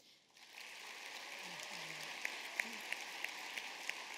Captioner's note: applause